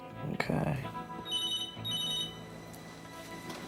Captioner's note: phone rings